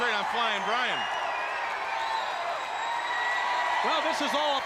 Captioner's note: crowd cheering